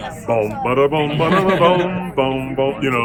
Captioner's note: imitating melody